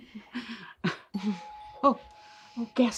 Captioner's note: doorbell ringing